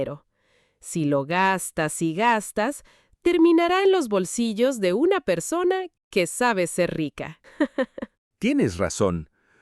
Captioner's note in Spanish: risas